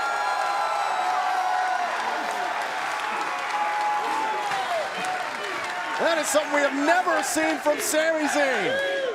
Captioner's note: cheers & applause